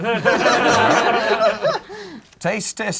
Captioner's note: group laughs